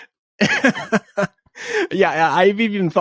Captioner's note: laughs